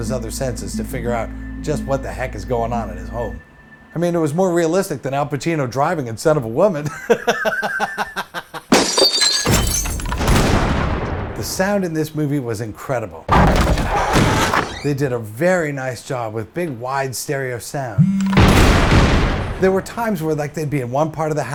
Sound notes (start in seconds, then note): 6.8 laughs; 8.7 glass breaks, lock breaks, gun shot; 13.4 dog barks, door opens; 18.0 phone vibrates, gun shot